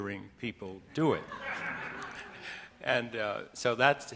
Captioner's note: audience laughing